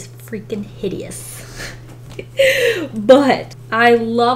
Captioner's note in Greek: Γέλια